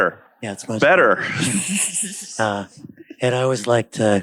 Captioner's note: laughs